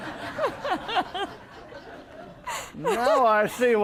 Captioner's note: laughter